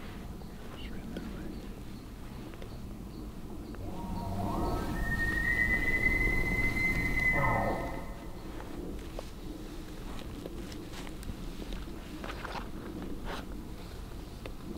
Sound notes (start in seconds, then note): 3.7 elk bugling